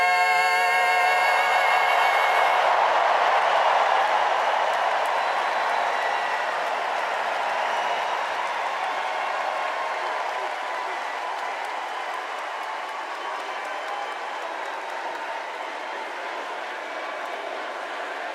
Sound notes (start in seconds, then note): 6.3 cheers and applause